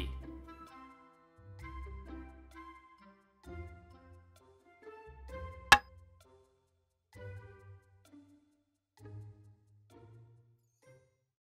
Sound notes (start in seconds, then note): 0.0 playful music; 5.7 hammer tapping; 7.4 playful music